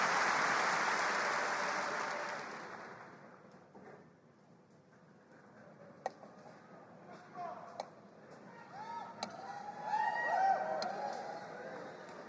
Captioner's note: cheers and applause